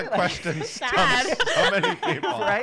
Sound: laughter

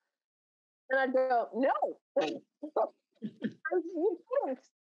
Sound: laughing

